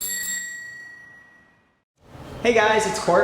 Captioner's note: bicycle bell rings